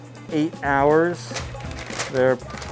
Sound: paper crinkles

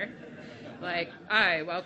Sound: laughing

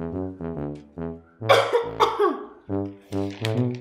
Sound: continues coughing

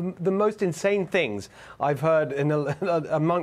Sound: laughter

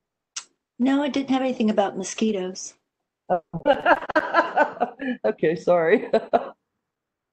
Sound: speaker laughs

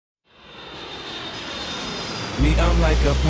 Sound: plane flying

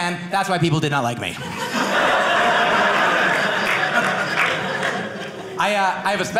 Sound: audience laughing

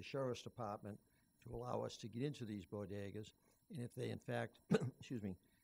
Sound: cough

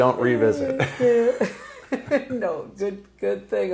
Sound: laughing

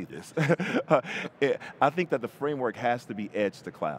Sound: chuckles

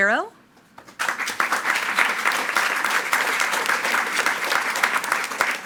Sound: attendees clapping

